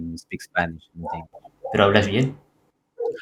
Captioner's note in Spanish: Español